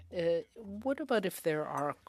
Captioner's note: speaking French